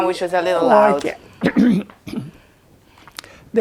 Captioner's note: clears throat